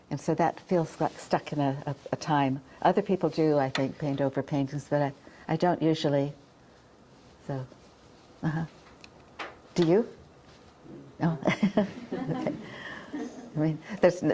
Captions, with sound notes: and so that feels like stuck in a time. Other people do, I think, paint over paintings, but I don't usually. Do you? (chuckles)